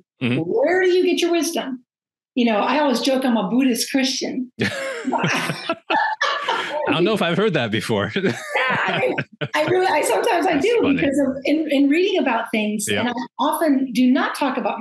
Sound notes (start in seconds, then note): 4.6 laughing